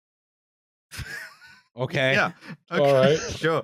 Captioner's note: laughs